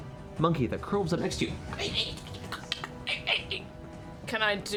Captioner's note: chittering